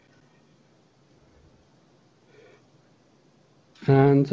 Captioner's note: pause